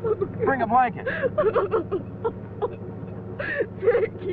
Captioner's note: girl crying; through tears